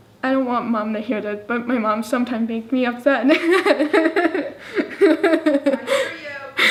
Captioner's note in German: lacht